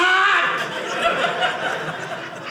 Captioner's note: audience laughing